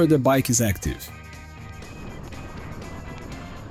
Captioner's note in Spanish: Ruidos de conducción